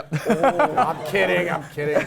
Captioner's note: laugh